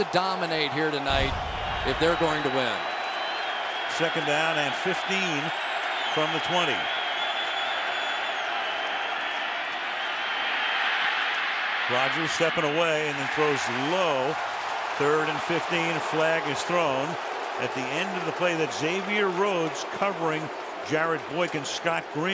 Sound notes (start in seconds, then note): 7.4 crowd cheers; 10.6 crowd roars